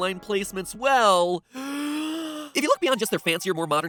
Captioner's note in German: tiefer Atemzug